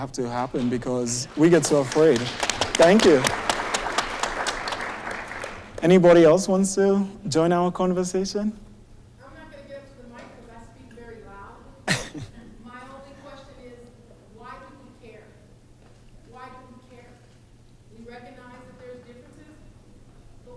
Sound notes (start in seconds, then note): 3.6 applause